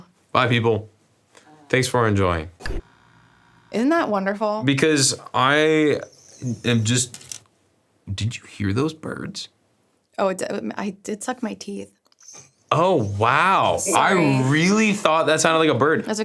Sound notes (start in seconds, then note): 5.9 light squealing